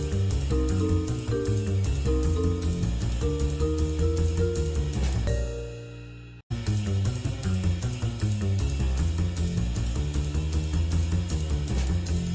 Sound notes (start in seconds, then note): none